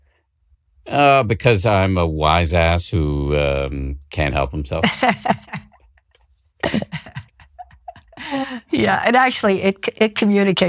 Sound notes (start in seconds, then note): 6.6 laughing